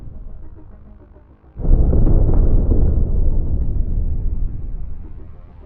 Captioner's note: dreamy electronic music; thunder in distance